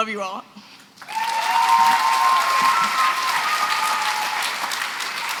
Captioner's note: applause